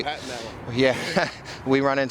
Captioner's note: laughs